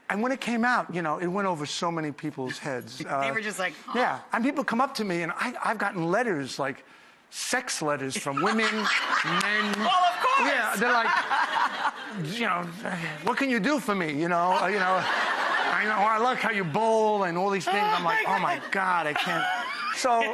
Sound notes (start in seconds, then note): 14.4 audience laughs